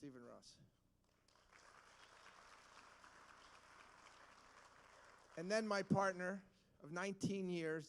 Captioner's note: applause